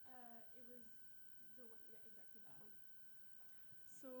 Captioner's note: faintly speaking